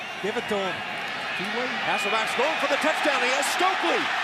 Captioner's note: crowd cheering